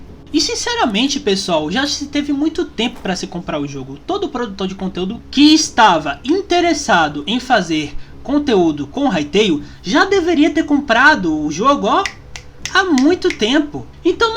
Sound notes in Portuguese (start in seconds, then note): 12.0 estalo de dedos